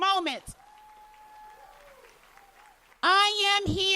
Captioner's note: cheers and applause